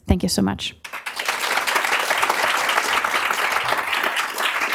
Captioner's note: applause